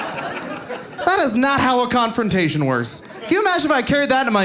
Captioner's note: audience laughing